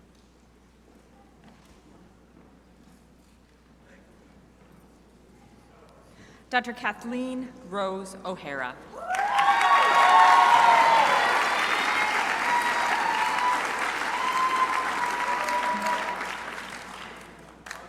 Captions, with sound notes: Dr. Kathleen Rose O'Hara. (crowd applauding)8